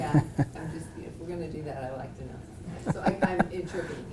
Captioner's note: laugh